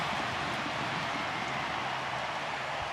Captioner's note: crowd cheering